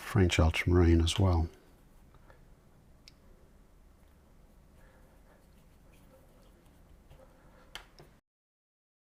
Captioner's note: silence